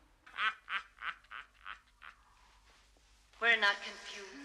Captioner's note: Смеется